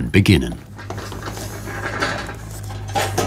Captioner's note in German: Metallisches Scheppern